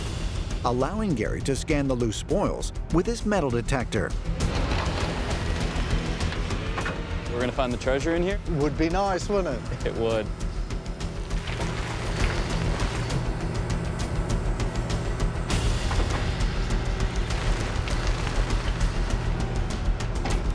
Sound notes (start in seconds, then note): 3.8 excavator whirring; 16.7 dirt falling